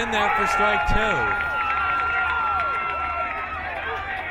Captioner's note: crowd cheering